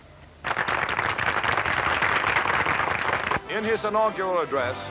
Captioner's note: applause